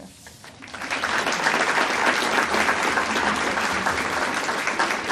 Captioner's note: audience applauding